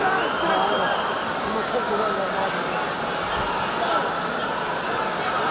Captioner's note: group chattering